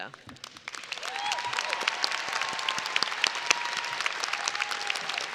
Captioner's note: audience applauding and cheering